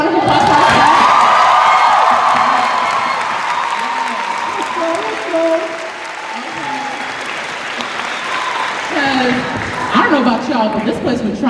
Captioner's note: cheers and applause